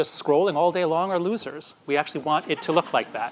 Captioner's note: audience laughs